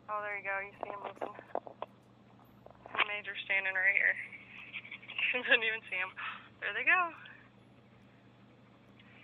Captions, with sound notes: Oh there you go! You see 'em movin'. and Major's standing right here. (laughing) doesn't even see them. (gasp) Their they go!